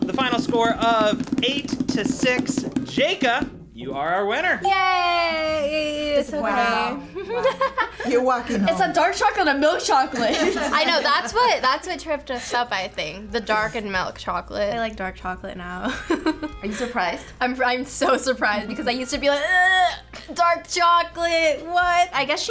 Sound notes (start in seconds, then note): 7.2 laughs; 16.3 laughs